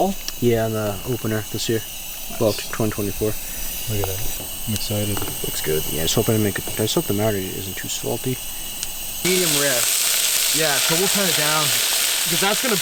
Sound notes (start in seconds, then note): 9.9 meat sizzling